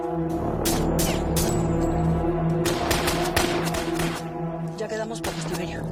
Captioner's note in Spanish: Disparos